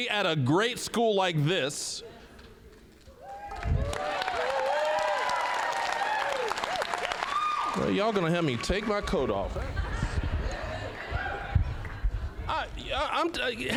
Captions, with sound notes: at a great school like this. (applause, cheering) Y'all gonna have me take my coat off. (audience laughing)